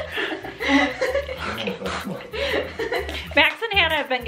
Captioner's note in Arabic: ضحك